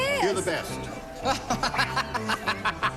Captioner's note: laughter